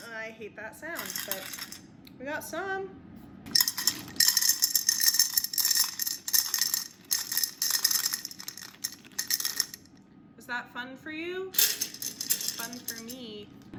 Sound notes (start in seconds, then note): 3.6 rocks repeatedly clinking into glass